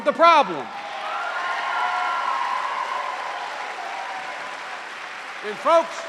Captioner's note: cheers and applause